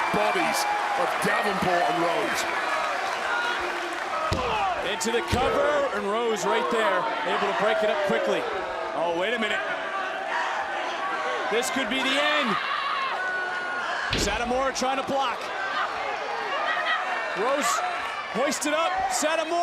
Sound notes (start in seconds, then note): 3.0 crowd cheers